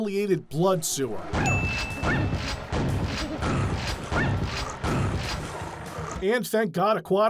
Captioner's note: ding